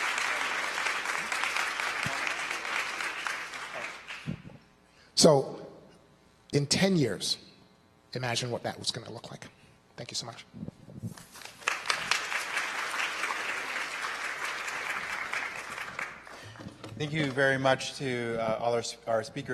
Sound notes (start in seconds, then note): 1.4 applause; 13.4 applause